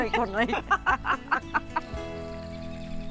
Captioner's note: laughter